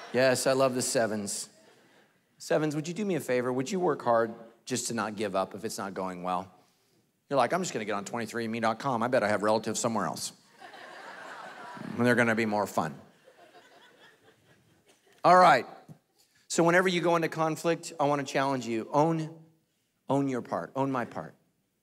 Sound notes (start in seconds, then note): 10.5 congregation laughing